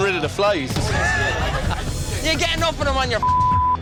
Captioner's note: laughter